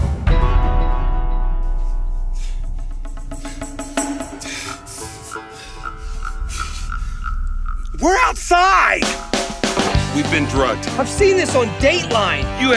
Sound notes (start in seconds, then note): 4.5 breathing heavy; 9.7 upbeat country music plays